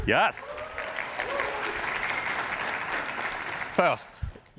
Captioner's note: cheers and applause